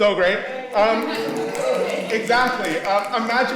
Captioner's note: fingers clicking; audience cheering and clicking